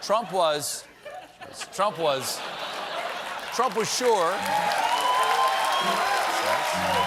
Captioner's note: laughter; cheers and applause